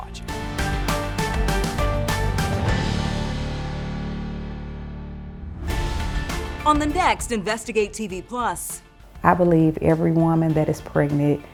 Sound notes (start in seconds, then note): 0.0 upbeat music; 5.4 air whooshing